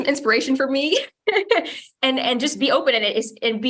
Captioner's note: chuckles